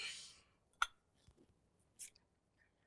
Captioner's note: clink